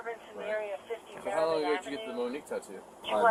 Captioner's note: radio chatter